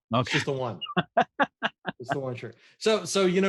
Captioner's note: laughing